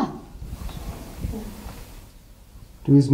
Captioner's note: ghostly Voice